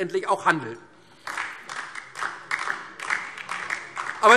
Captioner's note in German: Beifall DIE LINKE